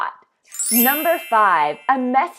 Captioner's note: twinkles